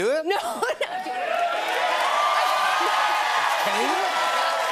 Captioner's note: cheers and applause